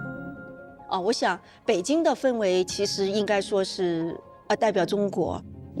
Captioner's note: speaking foreign language